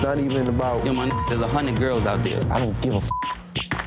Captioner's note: beep; beep